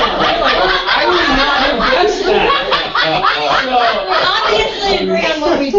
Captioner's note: laugh